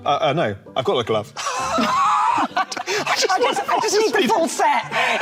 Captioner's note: laughing